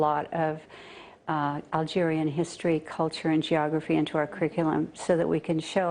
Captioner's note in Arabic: تتحدث الإنجليزية